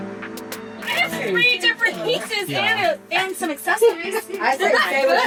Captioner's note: giggling